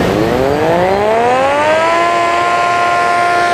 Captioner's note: whirring